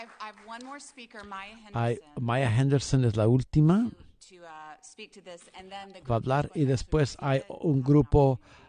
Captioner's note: applause